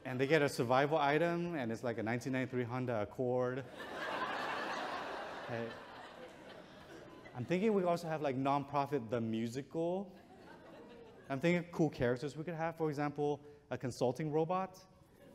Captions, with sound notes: And they get a survival item. And it's like a 1993 Honda Accord. (audience chuckles) Hey, I'm thinking we also have like, nonprofit the musical. I'm thinking of cool characters. We could have, for example, a consulting robot.